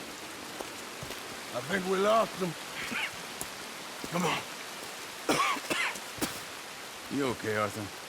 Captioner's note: coughs